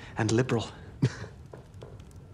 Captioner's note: <i> laughs briefly</i>